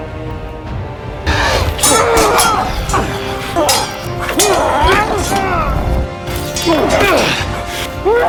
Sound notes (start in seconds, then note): 1.2 swords clanging; 1.2 grunting